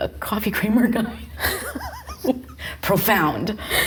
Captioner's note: both laughing